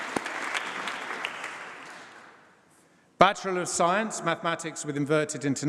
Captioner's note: applause